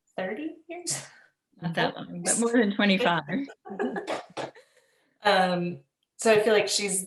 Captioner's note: laughter